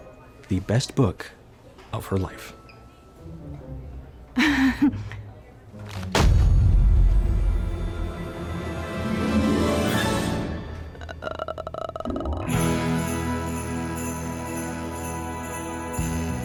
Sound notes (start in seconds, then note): 4.4 nervously giggles; 5.9 books thud; 10.9 groans; 12.4 sleigh bells jingling